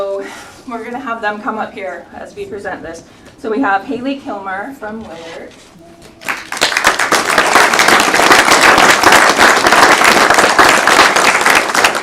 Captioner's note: applause